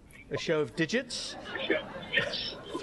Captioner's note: laughter